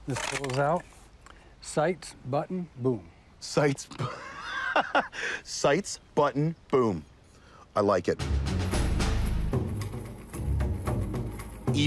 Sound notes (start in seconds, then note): 3.9 laughs; 8.2 dramatic music